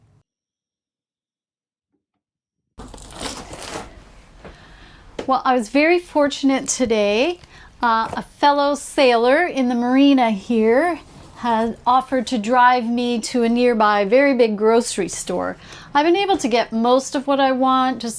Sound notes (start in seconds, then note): 2.8 object rustles